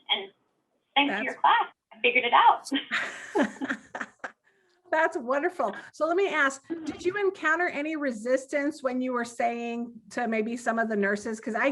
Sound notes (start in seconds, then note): 2.8 all giggling